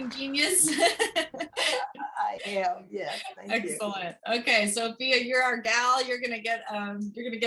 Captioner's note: laughter